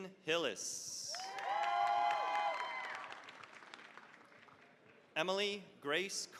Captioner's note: cheering, applause